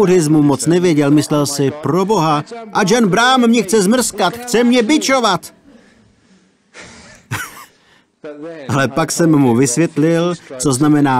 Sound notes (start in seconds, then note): 6.7 laughs